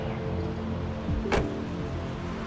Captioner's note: door shutting